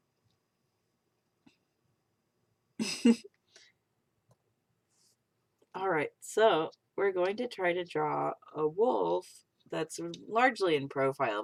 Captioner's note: laughs